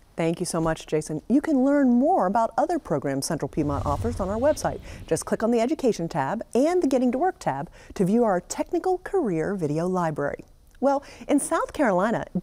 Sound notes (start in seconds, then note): 3.4 air rumbles